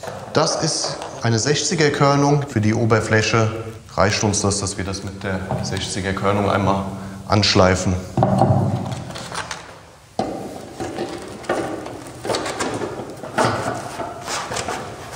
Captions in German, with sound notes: Das ist eine 60er-Körnung. Für die Oberfläche reicht uns das, dass wir das mit der 60er-Körnung einmal anschleifen. (Rumpeln) (Klacken)